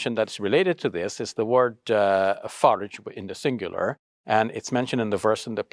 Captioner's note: speaks Arabic